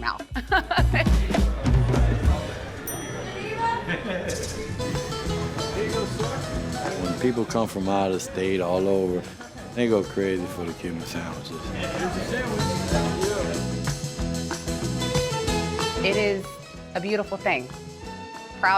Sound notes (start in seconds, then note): 0.0 people chatting; 0.2 laughs; 2.7 bell dings; 3.5 waitress yells out; 4.7 cheerful Latin guitar music plays; 11.7 cheerful Latin guitar music plays